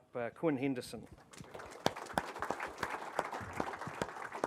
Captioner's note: applause